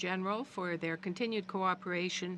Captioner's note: speaking french